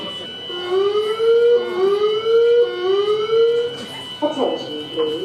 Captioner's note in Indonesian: Sirene berbunyi